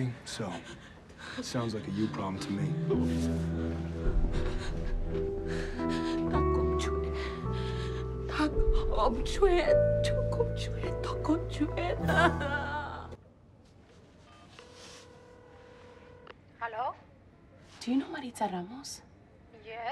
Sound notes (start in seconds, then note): 2.7 somber piano music; 6.4 begs in foreign language; 14.7 phone rings